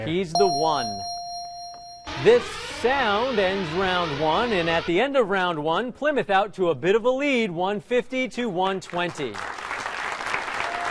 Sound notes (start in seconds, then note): 0.3 ding; 0.4 alarm whirring